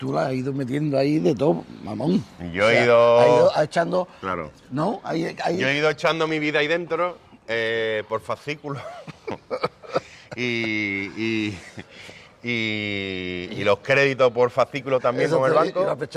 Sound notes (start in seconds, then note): 8.8 laughs